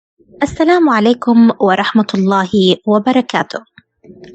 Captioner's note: Arabic